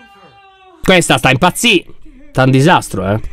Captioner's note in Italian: Candace urla